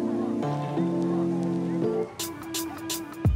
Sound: chatter; relaxed electronic music

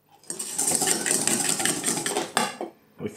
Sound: egg yolks being beaten into submission

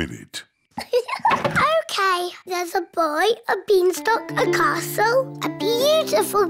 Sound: laughs

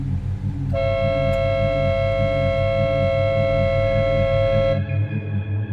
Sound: car honk

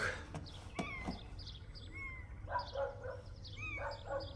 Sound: cat meaowing

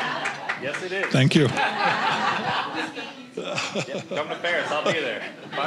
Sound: audience laughing

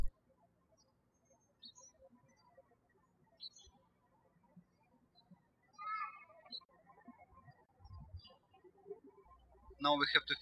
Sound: birds chirping

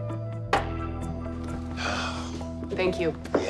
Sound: sighs

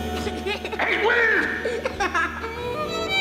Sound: giggles

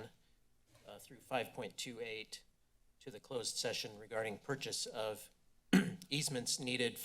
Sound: clears throat

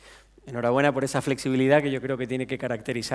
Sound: speaking spanish

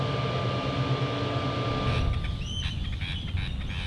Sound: birds squawking

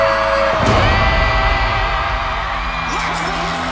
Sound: cheering

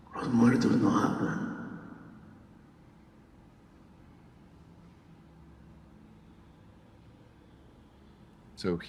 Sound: speaking spanish

